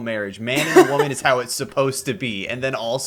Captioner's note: laughter